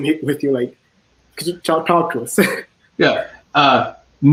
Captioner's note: chuckles